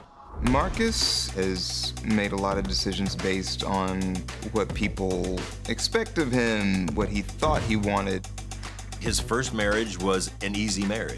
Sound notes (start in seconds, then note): none